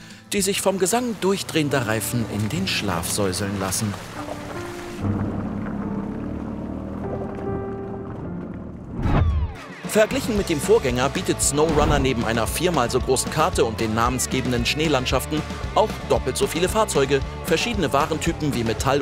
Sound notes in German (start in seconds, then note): 5.5 Motorengeräusche